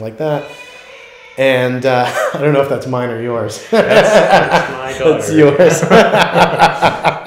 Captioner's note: A little girl starts crying in the background